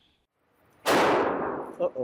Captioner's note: gunshot booms